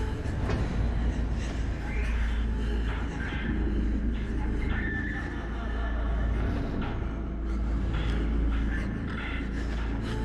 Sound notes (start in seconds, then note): 0.1 tense music continues; 5.1 distant laughing; 7.7 tense music